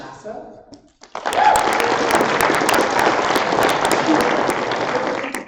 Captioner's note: applause